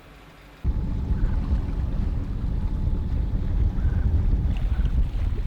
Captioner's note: engine whirring